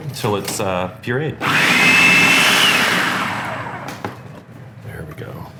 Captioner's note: whirring